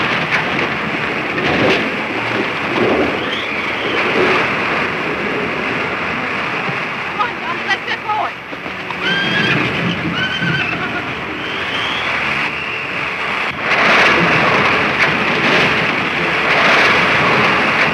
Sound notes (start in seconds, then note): 8.8 horse whinnies; 13.5 crashing